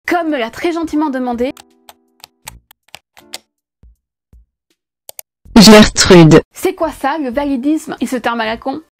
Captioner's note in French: bruitage de clavier